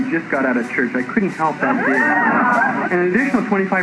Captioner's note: laughter